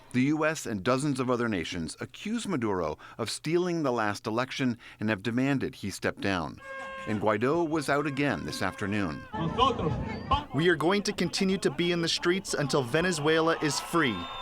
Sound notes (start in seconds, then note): 10.2 through translator